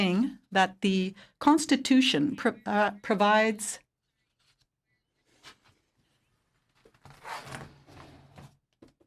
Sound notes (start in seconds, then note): 1.0 speaking French